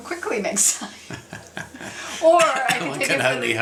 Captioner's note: both laughs